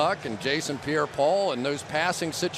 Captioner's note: announcer on loudspeaker